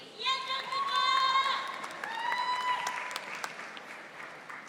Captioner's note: audience cheering